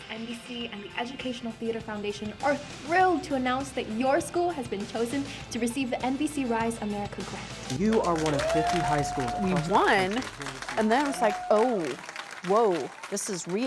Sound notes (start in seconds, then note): 7.7 crowd cheers